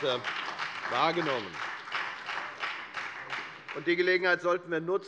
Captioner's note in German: Beifall bei der FDP und bei Abgeordneten der SPD